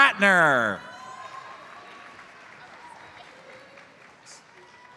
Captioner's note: audience applauds